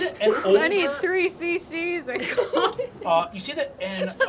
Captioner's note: laughs